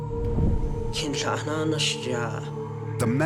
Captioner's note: non-english speech